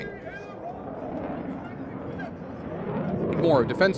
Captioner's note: engine roaring